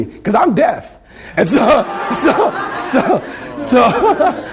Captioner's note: laughter